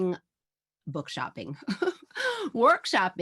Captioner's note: chuckles